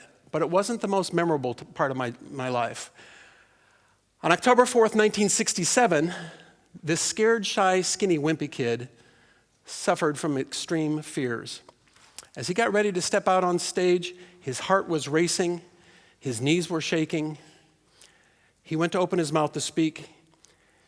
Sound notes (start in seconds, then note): none